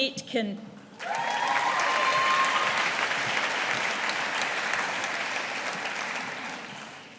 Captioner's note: audience applauding